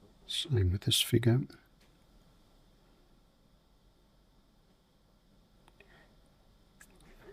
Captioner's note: silence